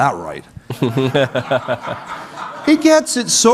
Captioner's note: audience laughing